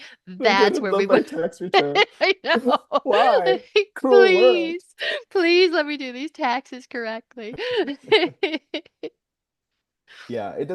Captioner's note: laughter